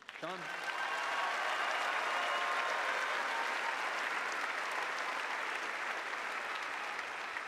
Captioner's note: cheers and applause